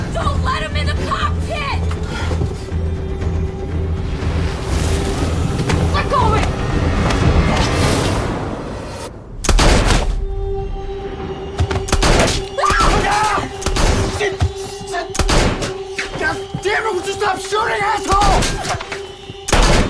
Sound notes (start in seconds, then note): 3.2 intense instrumental music; 9.4 gun fires; 11.9 gun fires; 12.5 Emily screams; 15.1 gun fires